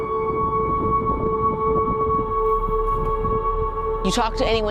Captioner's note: slow somber music; wind howling